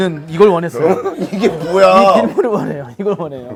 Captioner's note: haha